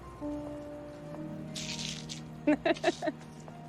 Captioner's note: laughs